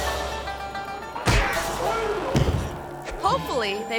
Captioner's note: body thuds; foot thuds